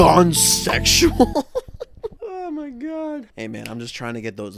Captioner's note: laughs at his dumb joke